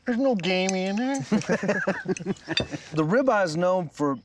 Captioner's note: laughing